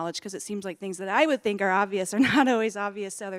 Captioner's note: laughs